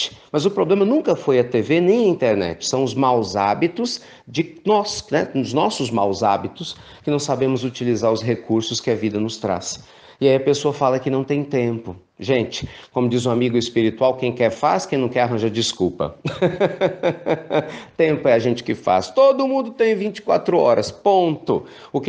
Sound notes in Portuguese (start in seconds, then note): 16.2 risos